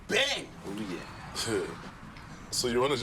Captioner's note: Fresh chuckles